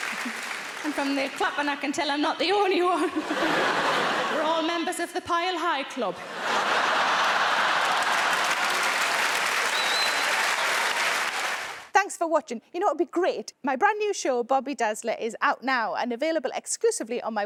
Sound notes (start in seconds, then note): 0.0 laughs; 6.2 audience laughing; 8.1 audience applauding